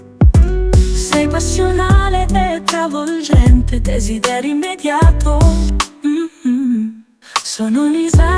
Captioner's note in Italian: mmm